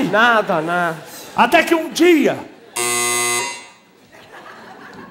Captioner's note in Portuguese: campainha